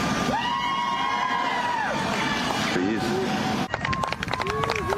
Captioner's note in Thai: ปรบมือ